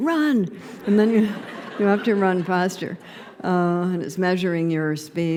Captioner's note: laughter